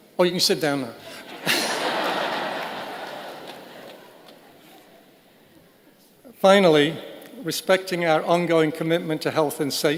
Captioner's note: laughter